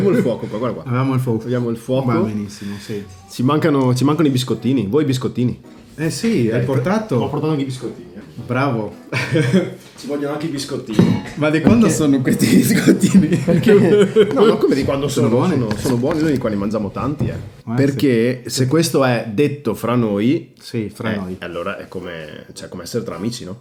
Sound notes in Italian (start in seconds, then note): 9.0 risate